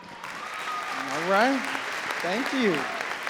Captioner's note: audience cheering and clapping